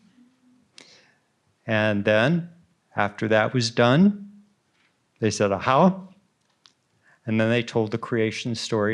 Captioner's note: speaks Ojibwe